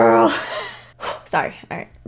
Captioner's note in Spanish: risa